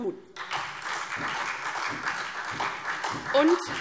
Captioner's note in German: Beifall SPD